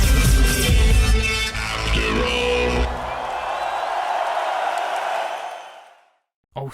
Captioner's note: applause